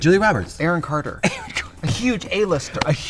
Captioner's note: Katya laughs